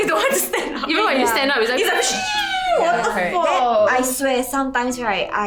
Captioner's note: peeeeeew